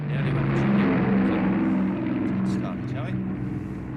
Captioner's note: engine roaring increases